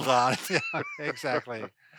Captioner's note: both laugh